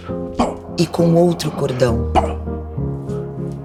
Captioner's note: boy makes sounds with his mouth; boy makes sounds with his mouth